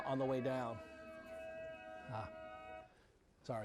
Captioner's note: screaming